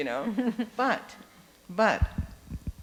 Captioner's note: laughing